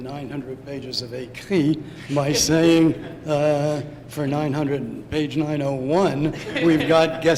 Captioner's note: non-english